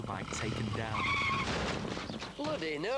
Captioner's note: bike crashing in background